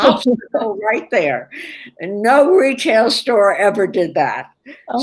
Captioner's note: laughter